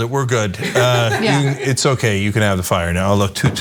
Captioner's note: laugh